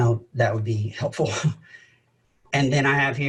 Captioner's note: laughs